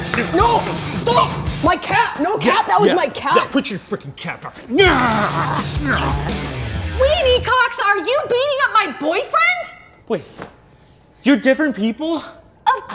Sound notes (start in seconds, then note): 4.4 grunting resumes